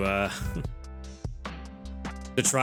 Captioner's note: chuckles